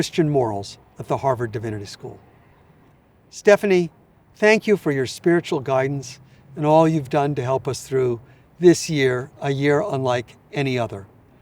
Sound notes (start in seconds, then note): none